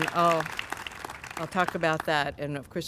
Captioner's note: applause